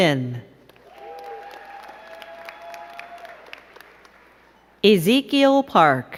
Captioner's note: crowd cheering and clapping